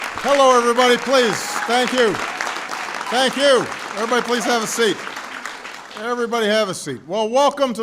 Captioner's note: applause